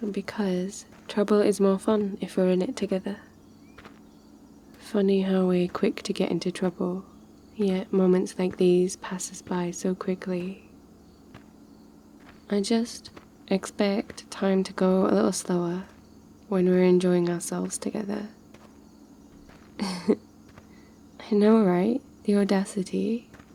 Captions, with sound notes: because trouble is more fun if we're in it together funny how we're quick to get into trouble yet moments like these pass us by so quickly I just expect time to go a little slower when we're enjoying ourselves together *laughs* I know right, the audacity